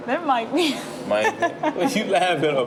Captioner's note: laughs